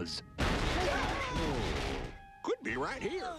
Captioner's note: crash